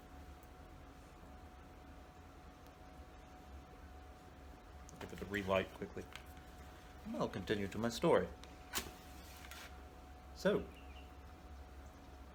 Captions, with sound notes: Give it a relight quickly. We will continue to my story... uh... (Match strikes) so